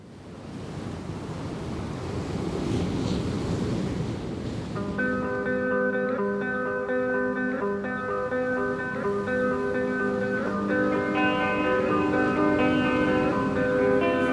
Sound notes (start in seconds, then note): 1.0 waves rolling onto shore; 6.2 gentle music